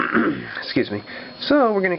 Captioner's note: clears throat